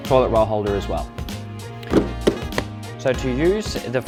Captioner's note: cover clicks